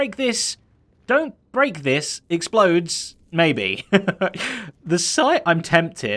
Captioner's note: chuckles